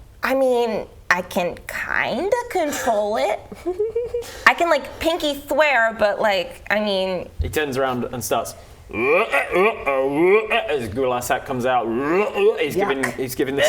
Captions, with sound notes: I mean, I can kind of control it I can pinky swear, but I mean- He turns around and starts *ribbets* As his gular sack comes out He's giving the- - Yuck